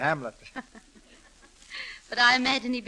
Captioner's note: laughter